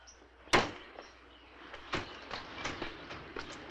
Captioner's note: door thuds